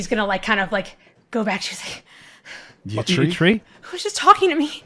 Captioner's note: out of breath